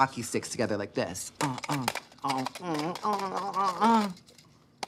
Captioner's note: moaning